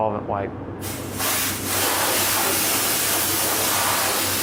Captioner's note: air spraying